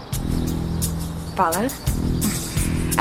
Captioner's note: chuckling